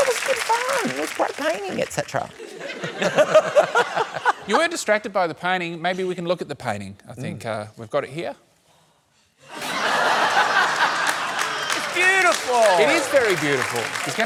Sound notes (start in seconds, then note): 9.5 laughter